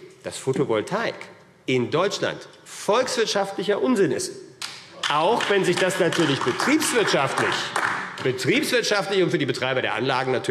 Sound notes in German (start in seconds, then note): 4.9 Beifall AfD